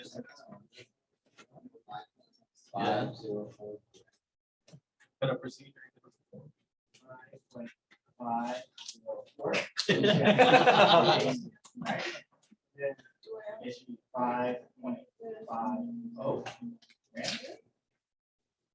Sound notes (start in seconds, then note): 8.2 laughter